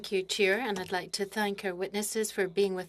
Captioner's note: speaking French